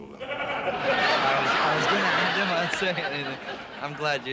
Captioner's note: audience laughing